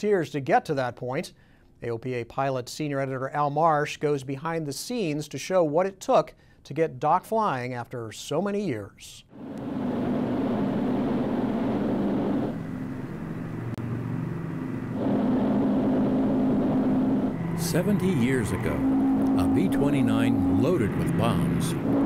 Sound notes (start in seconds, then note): 9.6 airplane rumbling